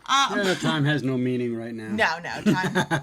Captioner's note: laughs